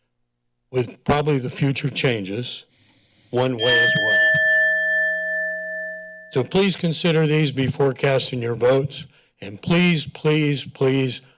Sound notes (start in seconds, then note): 3.6 bell rings